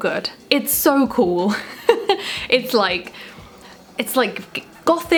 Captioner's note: laughs